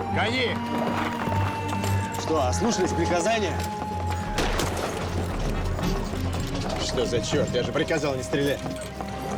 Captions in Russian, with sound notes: Гони! Что, ослушались приказания? ( выстрел ) Что за черт? Я же приказал не стрелять.